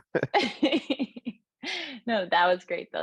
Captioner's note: laughs